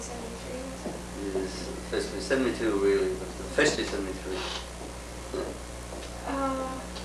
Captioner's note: laughs